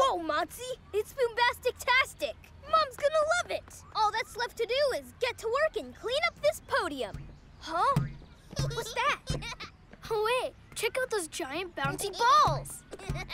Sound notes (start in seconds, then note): 8.6 giggling